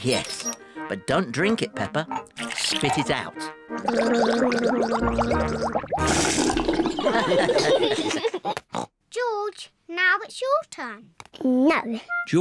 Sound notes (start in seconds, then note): 3.8 gargles; 6.9 all laugh